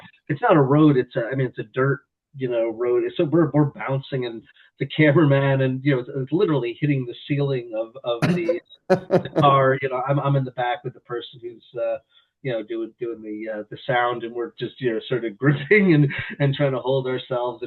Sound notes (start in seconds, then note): 8.9 laughs